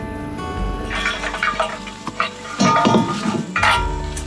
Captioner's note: metal clanging